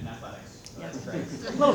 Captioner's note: laughter